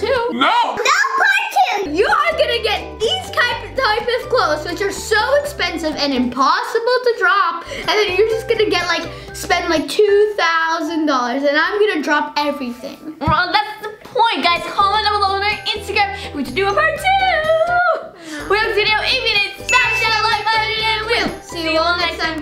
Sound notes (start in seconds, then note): 19.2 speaking fast